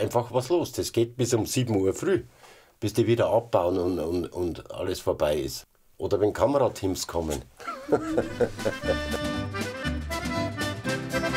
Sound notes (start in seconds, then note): 7.6 he laughs; 9.8 lively music